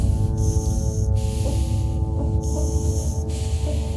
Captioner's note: deep breathing is heard through the mask